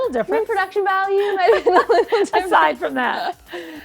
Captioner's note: laughing